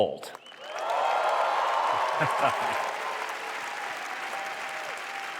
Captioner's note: cheering